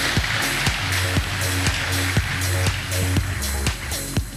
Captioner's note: applause